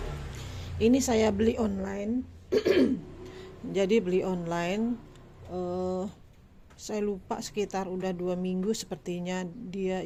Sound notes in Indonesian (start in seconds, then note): 2.5 batuk; 2.5 berdehem